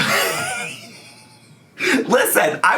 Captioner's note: laughing